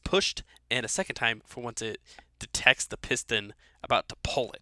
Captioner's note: voiceover